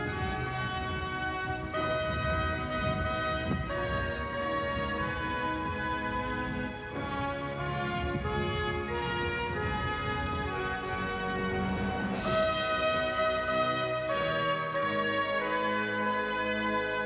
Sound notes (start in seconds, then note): none